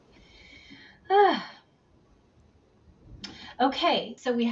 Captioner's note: sighs